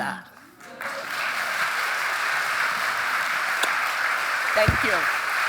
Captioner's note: audience cheering and applauding